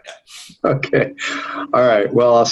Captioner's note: giggling